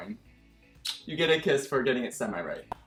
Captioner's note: kissing